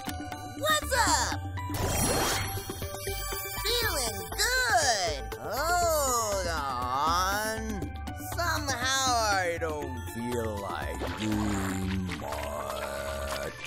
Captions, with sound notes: WHAZZUP? FEELIN' GOOD. [SLOWER, DEEPER] HOLD ON. SOMEHOW I DON'T FEEL LIKE DOOING MUCCHH...